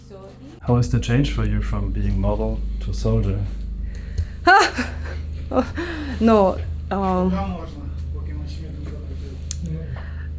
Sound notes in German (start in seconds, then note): 0.6 englisch